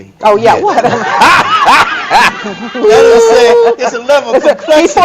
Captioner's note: audience laughter